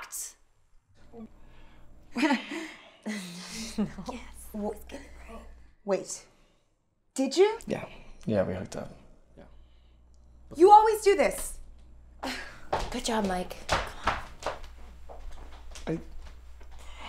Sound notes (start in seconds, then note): 1.3 awkward group laugh; 12.7 sigh